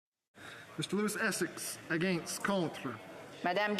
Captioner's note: speaking French